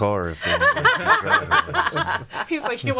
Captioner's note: all laughing